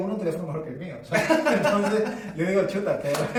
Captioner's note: laughing